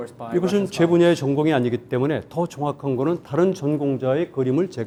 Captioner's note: speaking in Korean